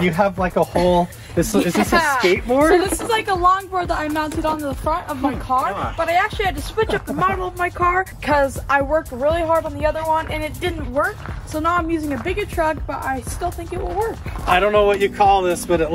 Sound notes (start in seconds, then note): 1.3 laughs